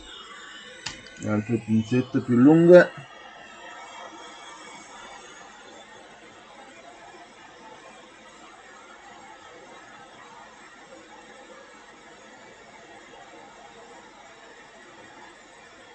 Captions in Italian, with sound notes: le altre pinzette più lunghe [Applauso]